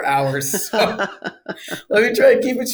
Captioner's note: laughs